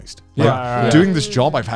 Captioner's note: group agreeing